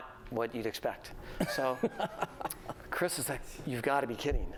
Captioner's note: laughter